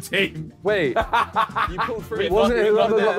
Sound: Ethan laughs

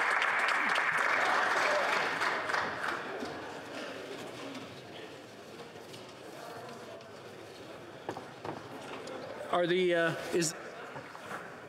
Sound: some Applause

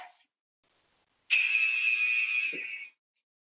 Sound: alarm blares

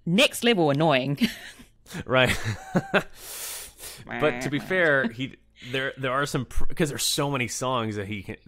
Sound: laughs

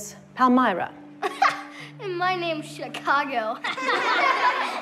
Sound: laughing; children laughing

